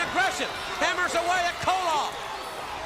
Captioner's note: crowd cheering